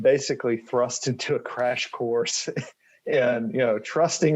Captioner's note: chuckles